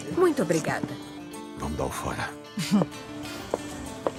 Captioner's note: chuckles softly